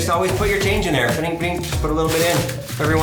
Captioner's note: mimicking coin sounds